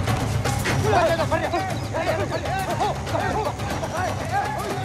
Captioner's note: shouting